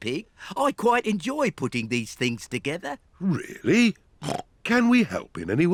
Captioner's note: snorts